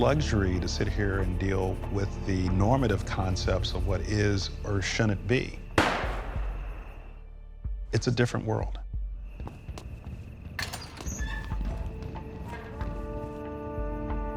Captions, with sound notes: it is a luxury to sit here and deal with the normative concepts of what is or shouldn't be. (gunshot) It's a different world.